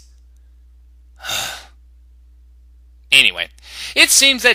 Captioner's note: sigh